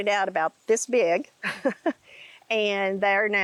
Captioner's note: laughs